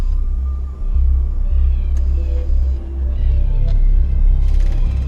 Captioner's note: birds chirping